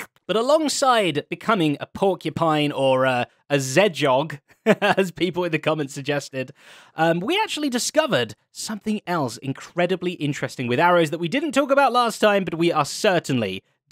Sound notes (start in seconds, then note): 0.0 slurping noises; 4.5 laughs